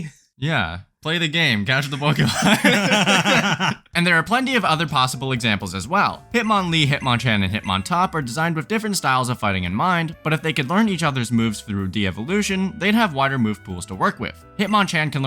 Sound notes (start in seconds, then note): 3.9 both laugh